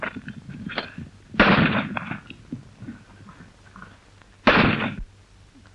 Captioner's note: gun shots